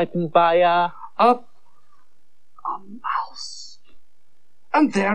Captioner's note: whispers